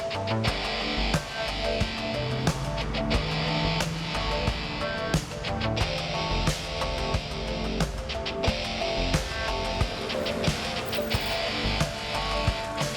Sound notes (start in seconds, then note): 3.5 car engine revs